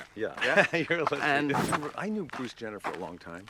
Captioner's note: laughs